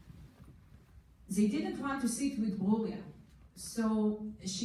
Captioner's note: foreign language